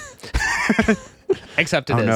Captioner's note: laughs